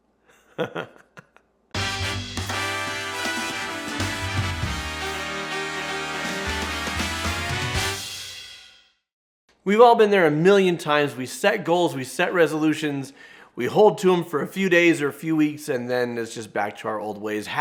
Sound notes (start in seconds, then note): 0.3 laughs; 1.7 jazzy music